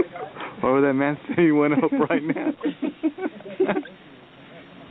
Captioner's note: soldiers laughing